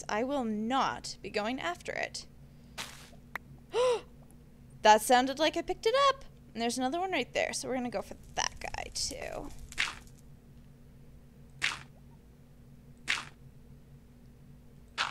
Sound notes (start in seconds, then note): 3.7 gasp